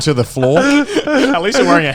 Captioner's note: laughing